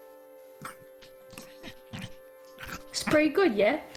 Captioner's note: Scrappy hungry eating noises